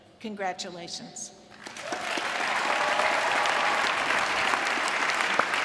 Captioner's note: applause